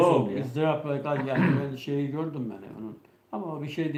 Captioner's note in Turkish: boğazını temizler